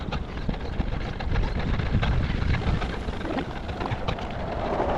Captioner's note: wind blowing